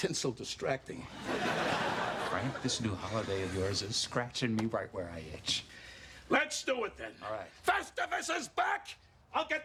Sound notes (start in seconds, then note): 1.1 laughter